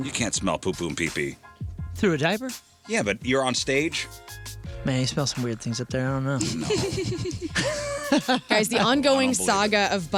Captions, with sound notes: You can't smell poo poo and pee pee. Through a diaper? Yeah, but you're on stage? Man, you smell some weird things up there, I don't know. (laughing) Guys, the ongoing saga of